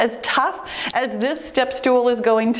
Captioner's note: timer beeps